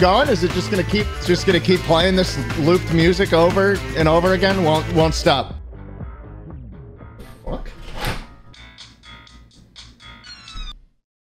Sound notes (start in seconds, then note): 7.3 quietly